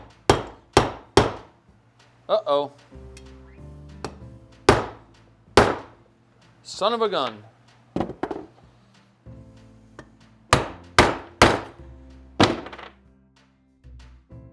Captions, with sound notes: Uh-oh. Son of a gun. (hammer pounding)